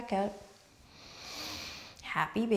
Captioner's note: strong inhale